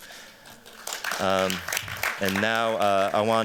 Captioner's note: applause